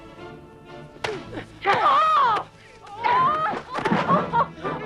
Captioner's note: both grunting